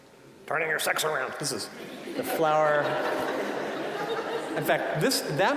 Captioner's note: audience laughing